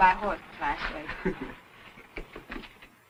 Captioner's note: guys laughing